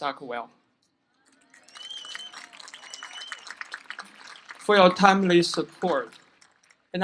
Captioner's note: applause